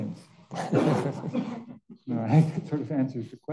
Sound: audience members chuckling; panelists chuckling

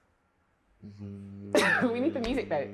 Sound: hums

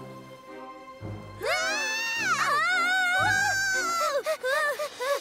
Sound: both screaming; both panting

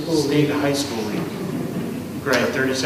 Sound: laughing

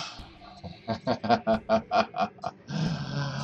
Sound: laughter

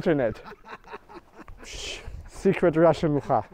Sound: man laughing; man shooshing; speaking in foreign language

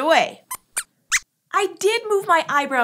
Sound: squeaks squeaks

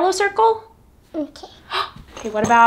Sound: gasps

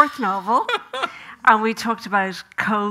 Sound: Graham laughing

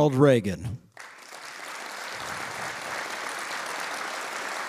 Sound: audience applauding

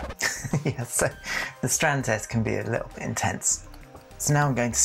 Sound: record scratch

